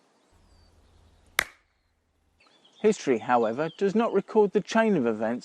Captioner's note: party popper